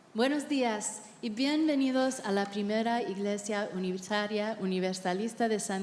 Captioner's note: interpreter speaking in Spanish